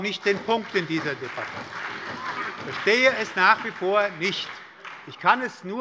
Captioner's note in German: Beifall bei der SPD und der FDP